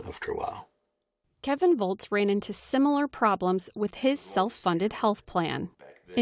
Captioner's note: voice-over